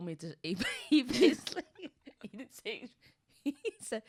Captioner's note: laughs